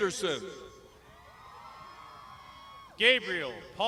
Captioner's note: crowd shouting